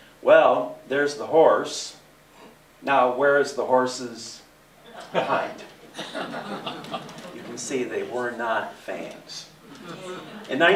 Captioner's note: laughter